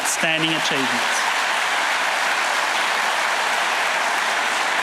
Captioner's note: audience applauding